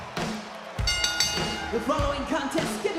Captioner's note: bell rings